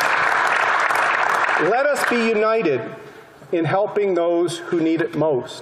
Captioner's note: applause